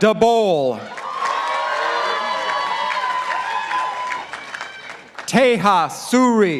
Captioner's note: participants applauding